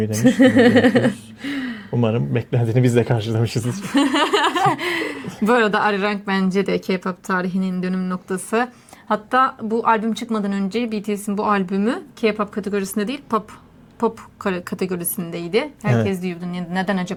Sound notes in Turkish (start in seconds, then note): 0.1 kahkaha